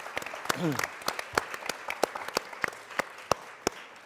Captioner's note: applause